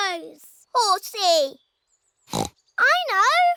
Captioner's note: oinks